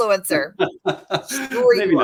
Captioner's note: laughter